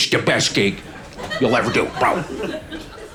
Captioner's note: audience laughing